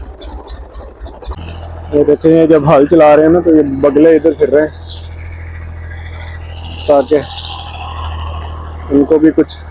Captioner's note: birds